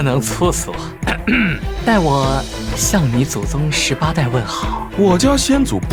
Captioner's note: cough cough